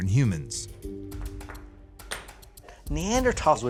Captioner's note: rocks banging